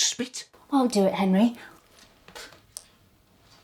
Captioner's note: spits